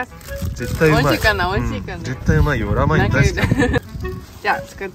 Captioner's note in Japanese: 笑う